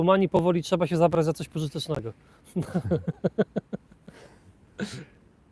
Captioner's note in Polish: śmiech